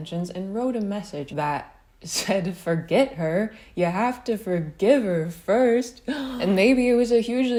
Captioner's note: gasp